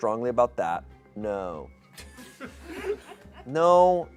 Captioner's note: audience laughs